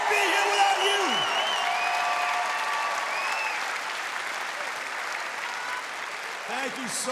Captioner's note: cheers and applause